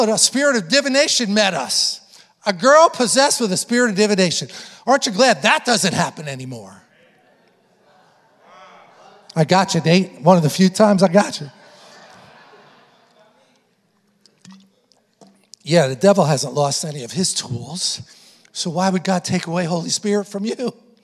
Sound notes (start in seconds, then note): 8.2 congregation responding; 12.0 congregation laughing